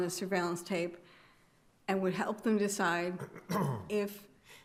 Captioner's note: attendee clears throat